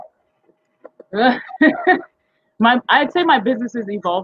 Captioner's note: laughing